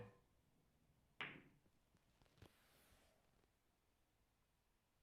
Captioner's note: balls clacks